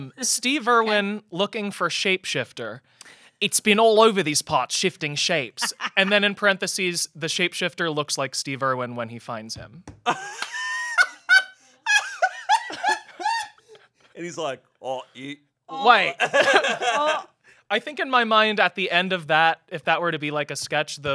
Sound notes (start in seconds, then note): 10.0 laughs